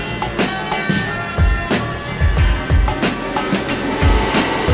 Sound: C2C train departing

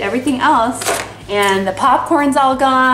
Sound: container thuds

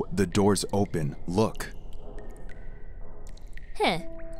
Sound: water dripping

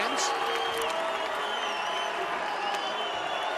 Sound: applause

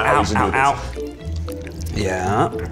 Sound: pasta squelching

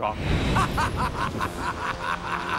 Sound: laughs wickedly

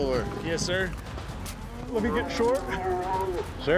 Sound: cow moos

